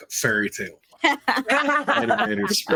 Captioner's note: everyone laughing